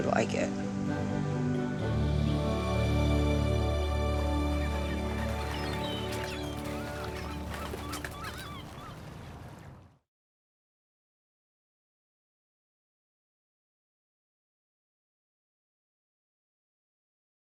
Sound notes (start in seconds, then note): 0.2 gentle music; 4.1 seagulls calling